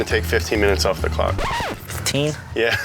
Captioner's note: record scratches; laughs